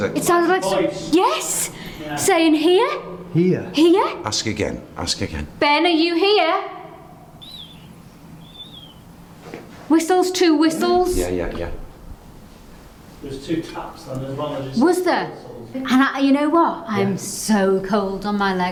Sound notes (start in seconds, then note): 7.4 whistling sound